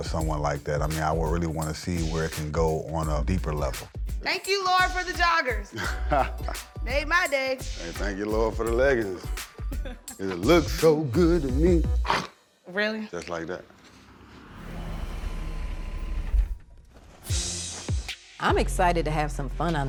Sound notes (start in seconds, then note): 12.0 growls